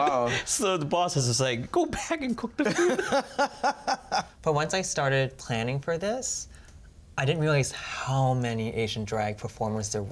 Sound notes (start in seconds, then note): 2.6 laughs